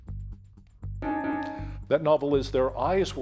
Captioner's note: timer beeping